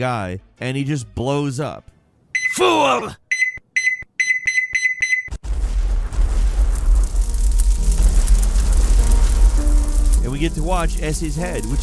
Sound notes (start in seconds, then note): 3.3 timer beeping; 5.4 piano music; 5.4 bomb exploding